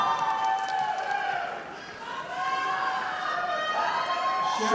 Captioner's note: audience applauding